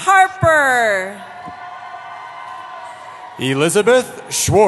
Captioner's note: cheering